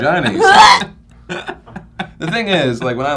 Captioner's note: mock vomiting